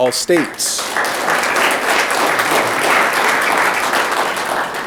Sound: audience clapping

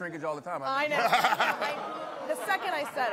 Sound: audience groans; laughter

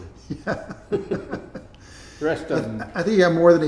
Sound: laughing

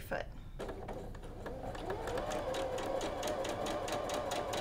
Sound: machine whirs

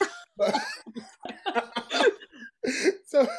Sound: laughing

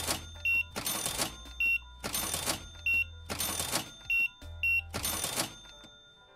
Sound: beeping

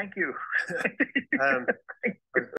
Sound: laughter

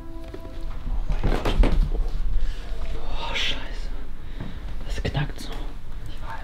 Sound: floor creaking

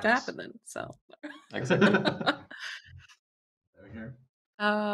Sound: laughter

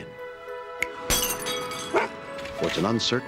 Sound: breaking glass

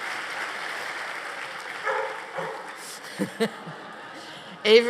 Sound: dog barking

